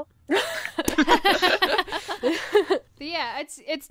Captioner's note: hosts laugh